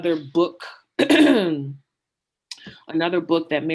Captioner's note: clearing throat